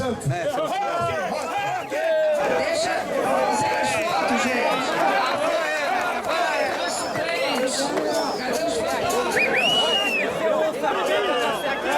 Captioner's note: applause, shouting